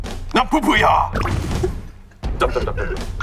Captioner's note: the original writer can't stop laughing